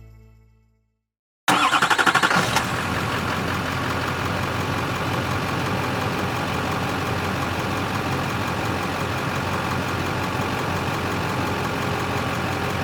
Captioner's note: bright Music; car Engine Revving